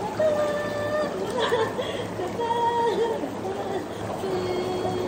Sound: laughs ♡

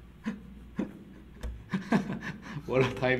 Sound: chuckling to himself

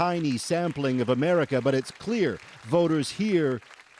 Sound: applause

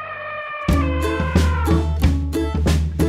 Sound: elephant sound effect

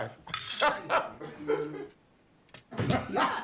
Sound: laughing

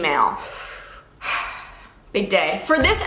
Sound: exhales

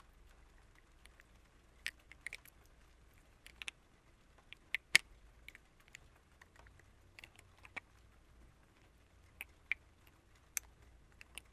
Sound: rain sounds; clink and rain sounds

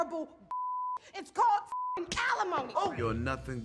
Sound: beep; Regina slaps Melissa

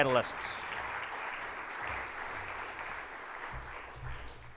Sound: audience claps

